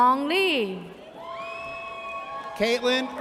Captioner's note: audience cheers